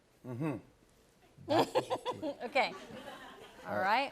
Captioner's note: laughs